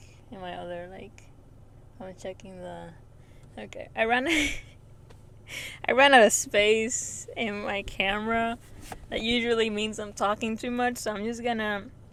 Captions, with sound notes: in my other, like I'm checking the- okay I ran out of (laughs) I ran out of space in my camera that usually means I'm talking to much so I'm just gonna